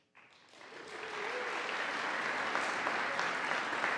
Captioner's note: audience applauding